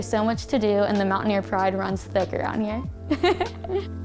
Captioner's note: laughs